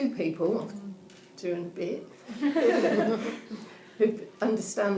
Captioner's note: audience laughing